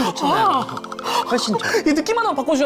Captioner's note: shake shake